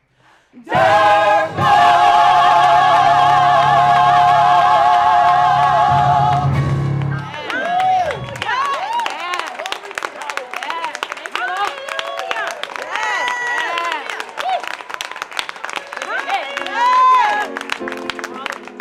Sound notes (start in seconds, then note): 6.3 applause